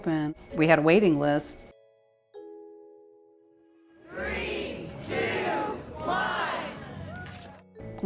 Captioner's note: crowd says 3, 2, 1 and cheers